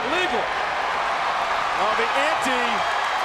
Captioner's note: spectators cheering